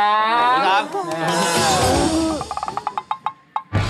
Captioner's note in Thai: เสียงตกใจ